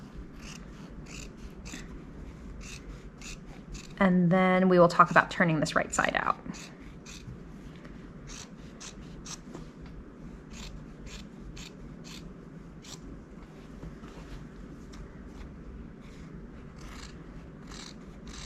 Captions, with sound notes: (scissors snipping) And then we will talk about turning this right side out. (scissors snipping)